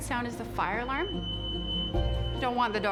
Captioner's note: fire alarm